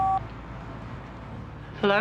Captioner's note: phone beeping